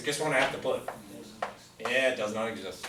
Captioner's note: voiceover